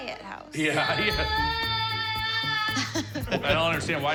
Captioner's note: screaming